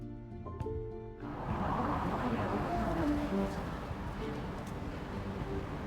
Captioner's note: traffic droning and humming